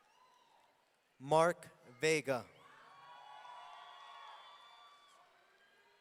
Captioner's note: audience cheering